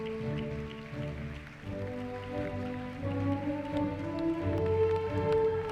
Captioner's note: orchestra playing; applause; orchestra playing